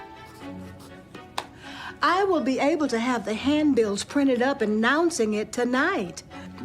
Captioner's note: pencil scratching